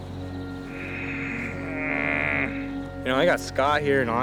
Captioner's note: frustrated groan